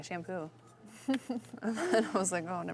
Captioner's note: laughing